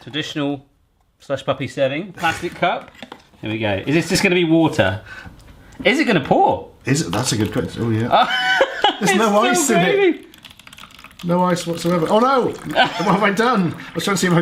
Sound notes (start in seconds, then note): 8.1 laughs